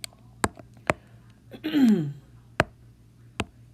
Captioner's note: clearing throat